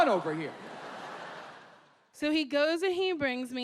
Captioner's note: audience laughing